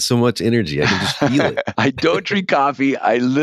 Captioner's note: laughter